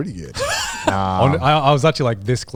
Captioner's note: chuckling